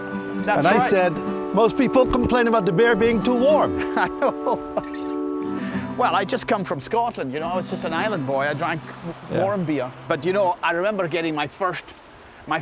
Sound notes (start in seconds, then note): 3.7 laughing